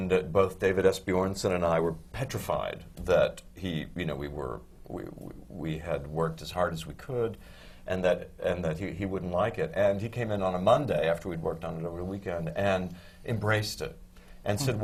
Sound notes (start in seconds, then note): none